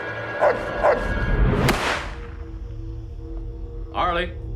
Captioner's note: gunshot